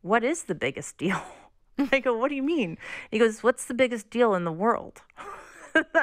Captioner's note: laughter